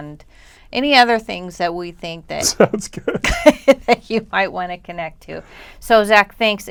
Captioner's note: laughter